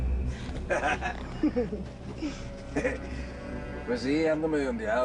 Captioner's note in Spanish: Risas